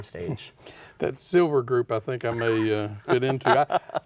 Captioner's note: laughter